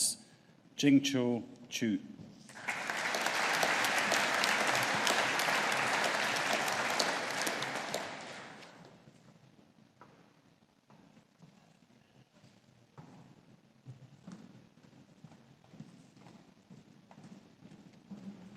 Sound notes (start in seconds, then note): 2.5 audience applauding